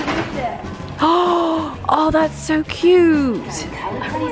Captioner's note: gasps